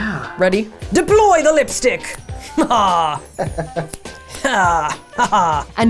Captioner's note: laughs menacingly